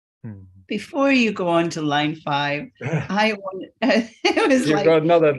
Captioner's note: laughs